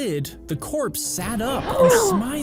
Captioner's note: both gasps